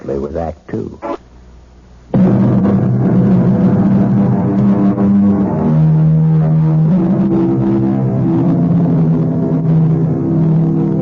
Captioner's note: sirens